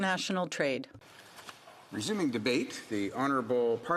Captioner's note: speaking French